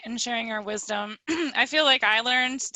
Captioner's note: clears throat